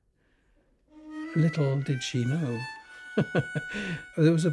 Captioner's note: laughs